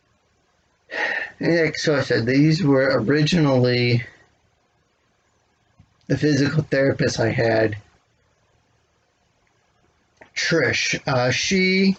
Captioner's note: exhales